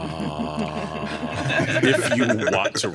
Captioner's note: laughter